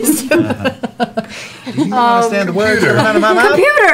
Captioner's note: laughter